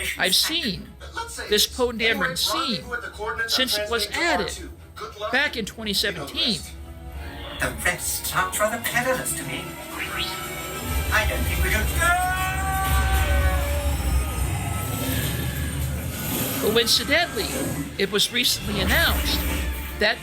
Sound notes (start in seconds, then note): 9.9 R2-D2 beeping